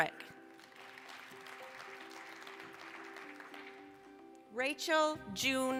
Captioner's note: applause